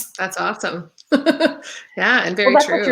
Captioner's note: laughing